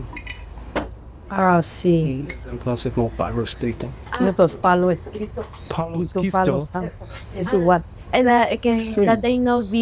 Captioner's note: and translator speaking spanish